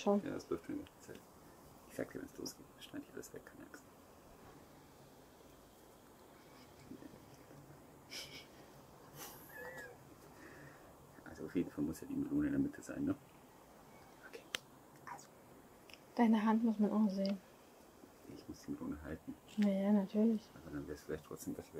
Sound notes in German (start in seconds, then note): 9.0 lachen